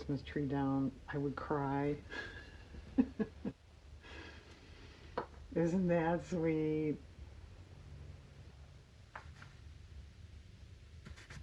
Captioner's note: laughs